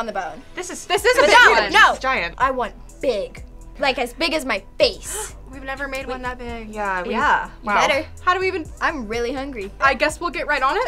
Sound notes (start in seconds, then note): 4.9 gasps